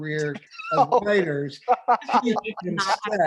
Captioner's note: all laughing